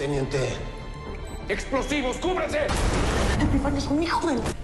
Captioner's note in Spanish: Pitidos